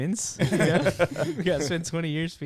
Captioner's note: laughing